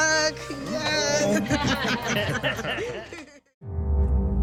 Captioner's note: laughter